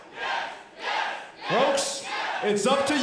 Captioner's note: crowd cheering